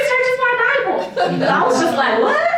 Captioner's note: laughter